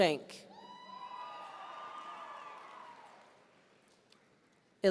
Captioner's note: audience cheering